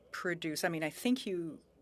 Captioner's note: speaking French